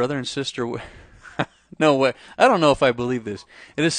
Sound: laughs

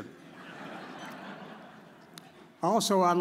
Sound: audience chuckles

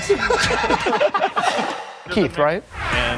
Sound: laughing

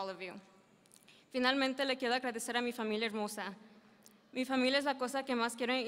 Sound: speaking in foreign language

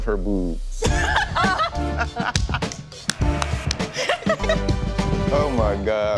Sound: upbeat music; laughing

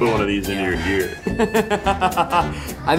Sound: Zach laughs

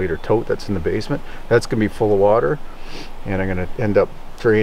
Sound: sniffling

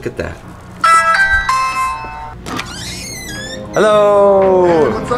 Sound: doorbell rings

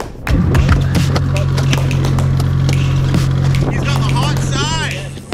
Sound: fish flopping

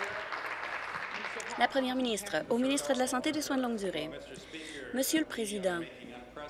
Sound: applause

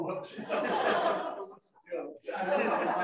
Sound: laughter

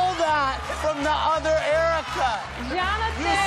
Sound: audience laughing, applauding

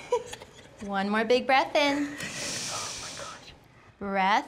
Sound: instructor breathing; breathing out

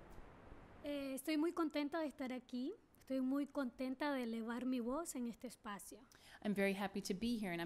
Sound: speaking spanish

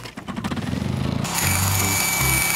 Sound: saw scraping; generator starting; saw buzzing

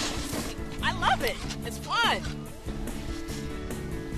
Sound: skiing sounds

